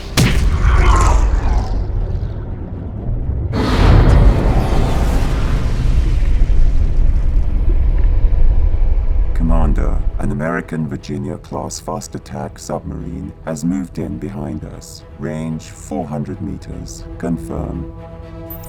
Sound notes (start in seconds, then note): 0.1 boot smacks; 4.6 metal groaning